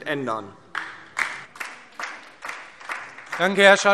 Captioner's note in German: Beifall DIE LINKE